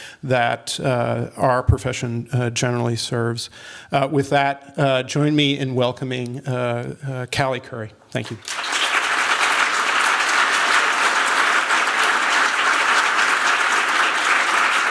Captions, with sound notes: that our profession generally serves. With that, join me in welcoming Cale Curry. Thank you. [applause]